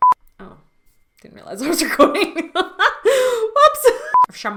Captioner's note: she laughs